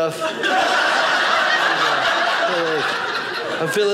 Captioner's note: audience laughing